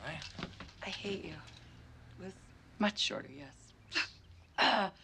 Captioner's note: chuckles